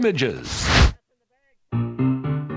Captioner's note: fire wooshing; upbeat piano tune